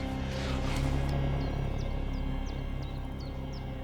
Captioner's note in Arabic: زقزقة الطيور